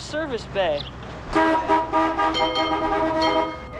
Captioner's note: car horn